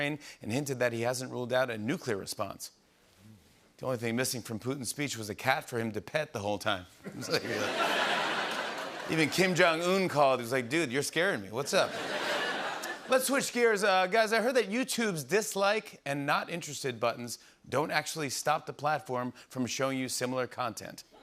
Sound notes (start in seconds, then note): 7.0 laughter; 11.7 laughter